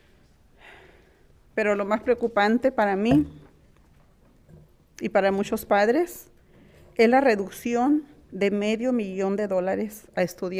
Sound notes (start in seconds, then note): 1.9 speaking in foreign language